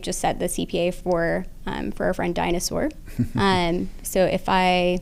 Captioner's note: chuckle